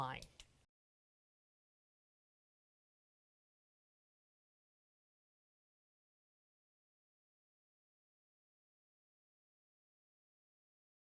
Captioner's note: no Sound Present